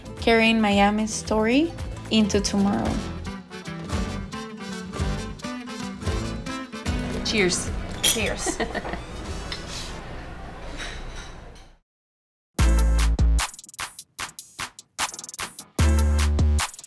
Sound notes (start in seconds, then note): 3.6 upbeat music; 8.2 laughs; 12.6 upbeat music